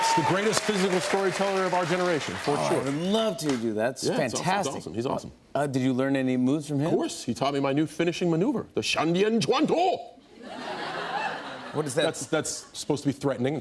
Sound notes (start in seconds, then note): 10.4 laughter